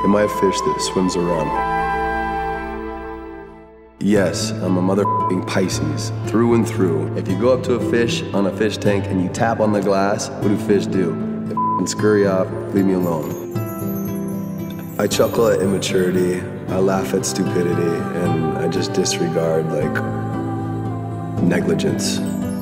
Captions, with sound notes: Well, my fish that swims around. (inspiring music) Yes, I'm a mother (beeping) Pisces, through and through. If you go up to a fish on a fish tank and you tap on the glass, what do fish do? And they (beeping) scurry off, leave me alone. I chuckle at immaturity, I laugh at stupidity, and I just disregard like...negligence.